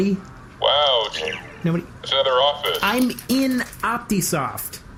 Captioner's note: skittering around